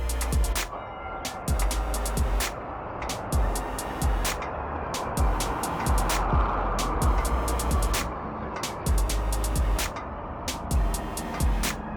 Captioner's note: Swanston Street noises